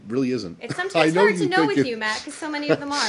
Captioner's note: laughter